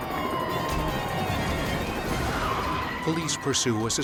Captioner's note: sirens blaring